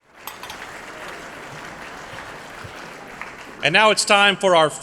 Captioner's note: applause